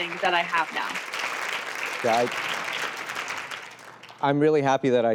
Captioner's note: applause